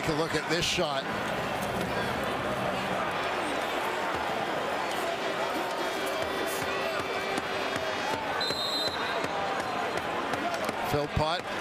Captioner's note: crowd Noise